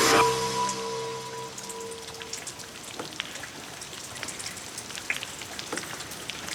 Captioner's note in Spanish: Ruido de las goteras